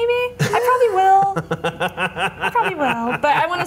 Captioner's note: laughter